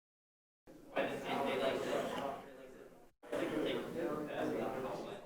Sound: chatter in the background

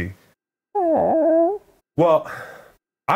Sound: squawks

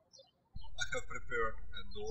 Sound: birds chirping

